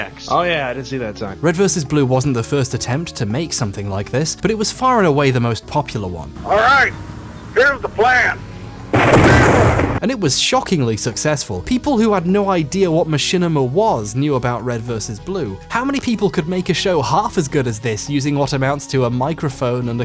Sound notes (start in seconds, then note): 8.9 booming; 9.2 screams